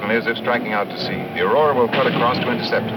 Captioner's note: cannon firing